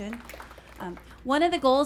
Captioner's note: audience applauds